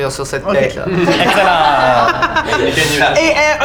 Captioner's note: laughter